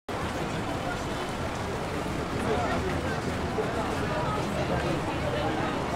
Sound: traffic noises

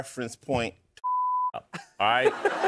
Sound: laughter

